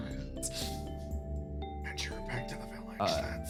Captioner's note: whispering